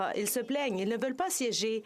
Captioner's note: speaking French